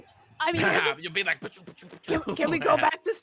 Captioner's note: imitates punching sounds